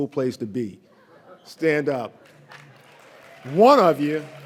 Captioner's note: audience laughs lightly; audience applauds